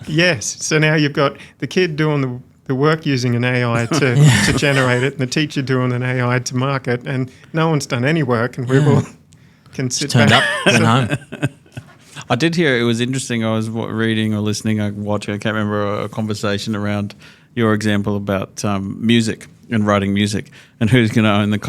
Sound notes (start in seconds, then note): 10.1 laughter drowns out speaker